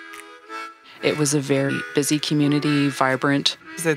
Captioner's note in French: bruits de moteur et klaxon